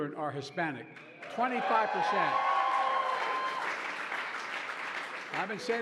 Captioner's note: applause